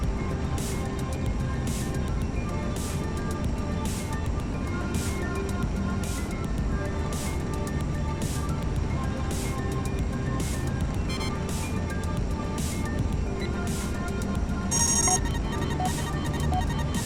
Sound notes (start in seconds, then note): 11.1 beep!